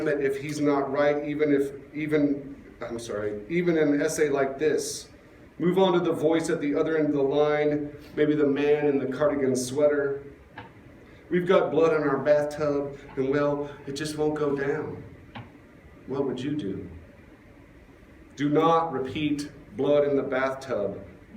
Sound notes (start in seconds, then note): none